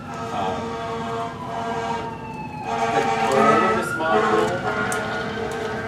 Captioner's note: sirens wailing in distance